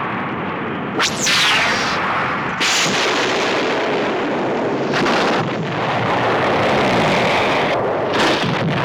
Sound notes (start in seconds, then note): 1.0 zapping; 1.9 booming